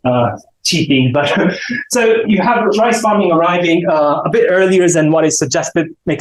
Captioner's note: chuckles